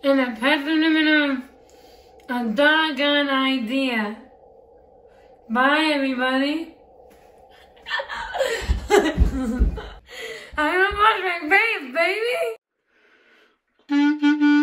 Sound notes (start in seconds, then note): 7.8 laughing; 13.8 instrumental clarinet